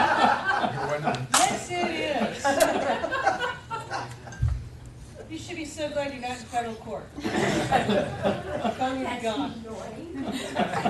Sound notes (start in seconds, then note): 3.6 laughter